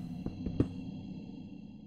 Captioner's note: spooky noises